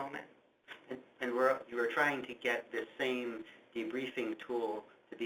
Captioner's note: voiceover